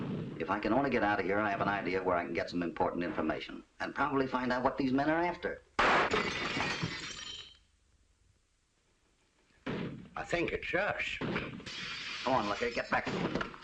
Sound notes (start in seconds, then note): 5.8 glass shatters